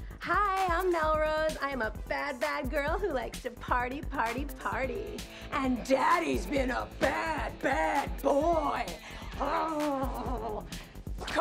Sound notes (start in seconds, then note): 9.5 growls